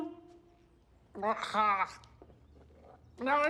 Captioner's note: swallowing